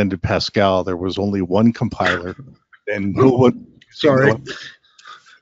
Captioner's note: laugh